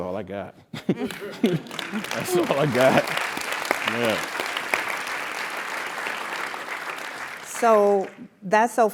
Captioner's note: applause